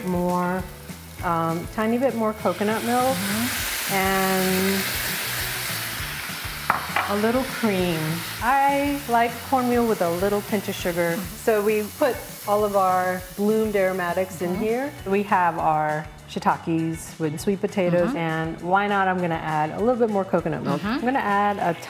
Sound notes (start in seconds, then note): 3.4 coconut milk sizzling